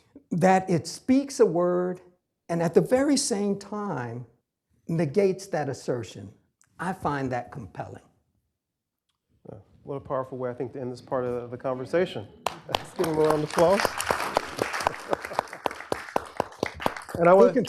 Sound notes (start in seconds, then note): 12.4 applause